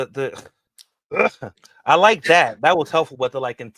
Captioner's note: growls